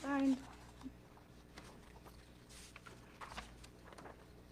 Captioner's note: pages rustling